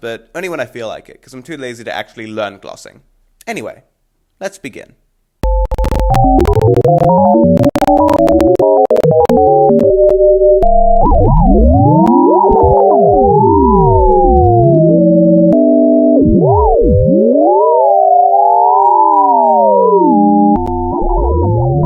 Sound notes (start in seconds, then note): 8.5 with some static because my Editing Software is horrible